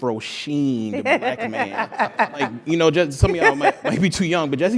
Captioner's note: laugh